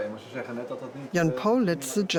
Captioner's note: speaks in foreign language